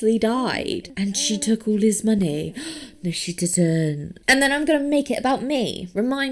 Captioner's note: gasps